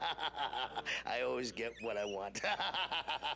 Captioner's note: cackling